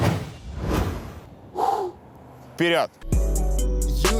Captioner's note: shot transition sound effects; exhale sharply; title card music